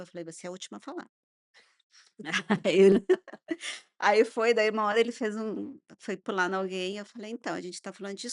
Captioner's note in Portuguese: risadas